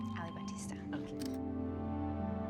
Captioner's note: camera shutter